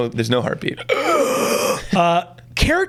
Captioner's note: gasps